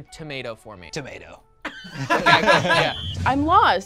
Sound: group laughs

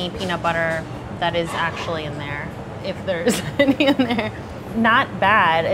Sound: laughs

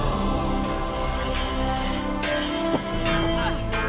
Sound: throwing axes/ weapons sound

